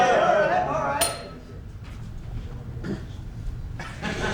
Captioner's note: the men groan and yell together; ding